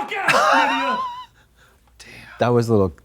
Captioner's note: Katya har-hars